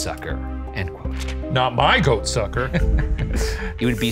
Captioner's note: laughs